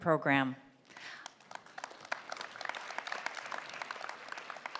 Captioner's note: applause